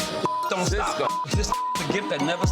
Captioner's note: beep